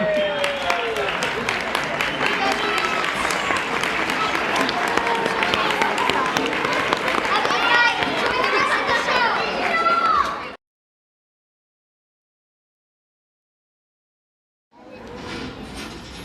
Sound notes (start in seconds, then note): 0.6 applause